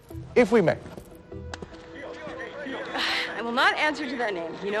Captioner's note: crowd chattering